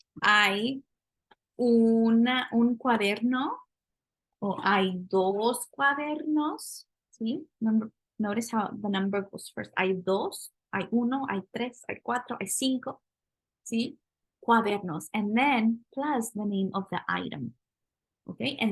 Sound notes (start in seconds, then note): 0.2 speaking spanish; 10.0 spanish